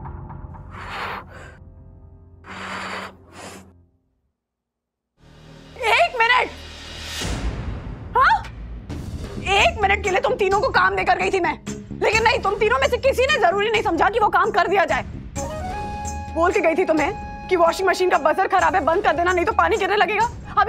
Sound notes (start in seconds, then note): 0.6 breathing heavily